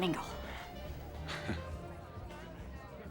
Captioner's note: chuckles